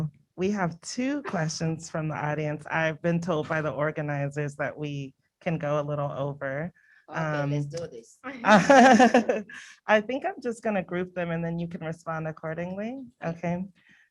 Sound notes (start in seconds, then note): 8.4 laughs